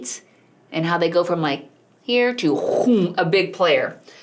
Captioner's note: verbal sound effect